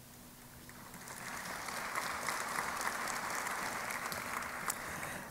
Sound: applause

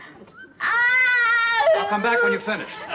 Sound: crying

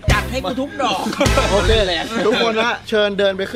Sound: laughs

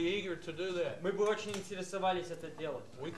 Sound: russian speech

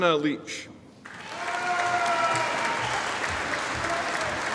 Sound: audience applauding

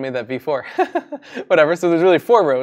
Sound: laughing

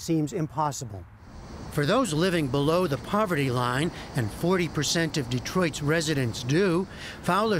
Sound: voice-over

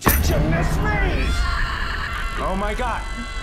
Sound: Mikey screams

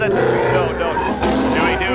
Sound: wookie roar

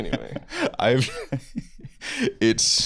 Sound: laughing

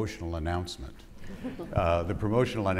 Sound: audience laughing

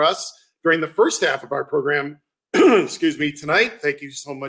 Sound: clears throat

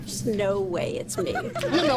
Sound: giggling

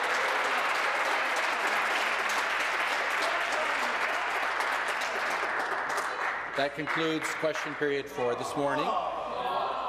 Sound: applause

